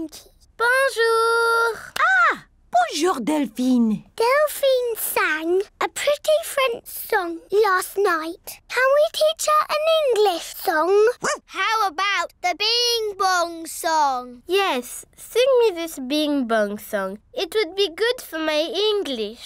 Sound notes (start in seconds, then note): 11.2 barks